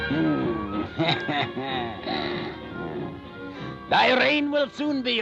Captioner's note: cackling